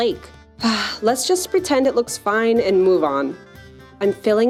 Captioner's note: sigh